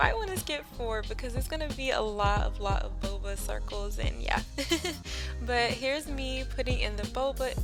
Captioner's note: laughs